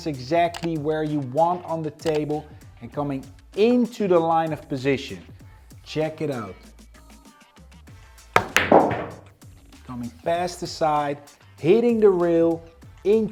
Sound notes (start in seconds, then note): 8.4 pool ball hitting